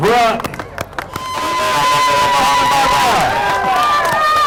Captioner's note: hog calling